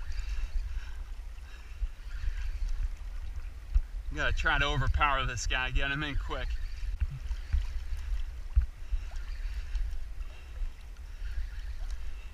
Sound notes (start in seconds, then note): 1.4 line reeling